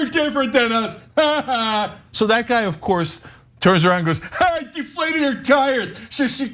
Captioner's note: laugh